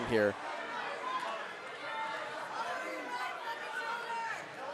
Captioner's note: audience cheering